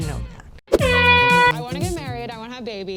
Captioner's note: air horn blasts